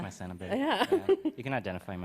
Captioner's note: laughs